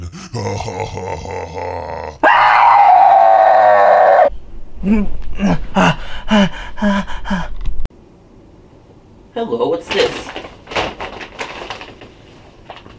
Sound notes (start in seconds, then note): 0.0 monster laughing; 1.4 screaming; 4.8 more Sleep Moaning; 5.3 heavy Breathing